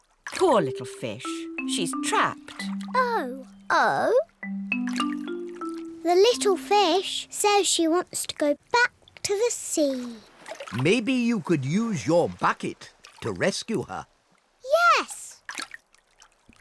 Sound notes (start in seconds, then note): none